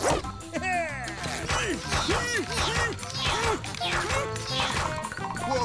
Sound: grunting

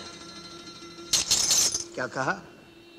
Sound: bangles clinking

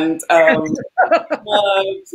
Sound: laughs

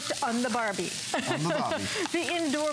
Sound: laughter

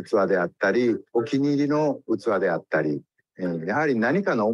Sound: speaks in Japanese

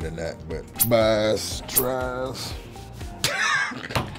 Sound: laughs

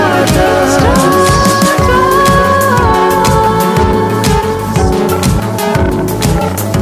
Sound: voice echoing

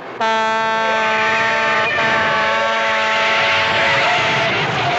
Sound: brakes squealing

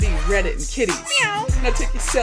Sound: meow

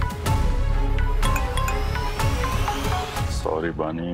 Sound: phone chimes

